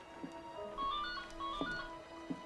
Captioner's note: ringing